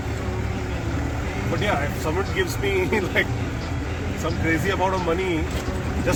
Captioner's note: laughs